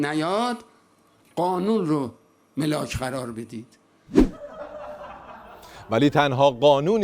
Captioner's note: laughter